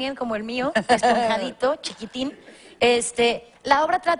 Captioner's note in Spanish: Ríe